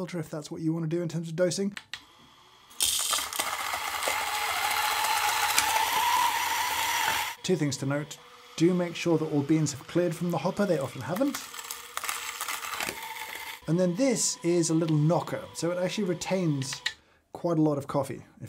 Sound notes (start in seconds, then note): 1.9 grinder humming softly; 3.2 grinder whirring